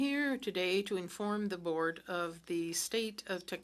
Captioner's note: speaking French